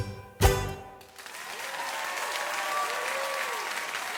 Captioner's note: audience applauds